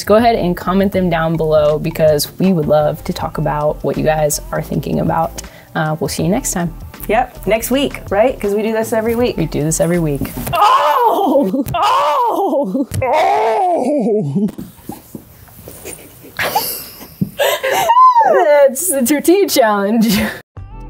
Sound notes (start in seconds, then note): 16.9 people laughing; 20.6 ambient music